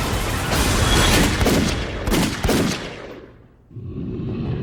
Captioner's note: more gunshots